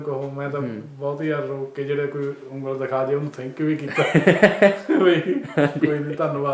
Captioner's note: laughs